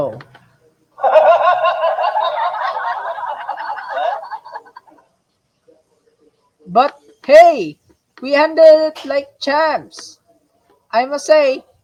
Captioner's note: laughter; chuckling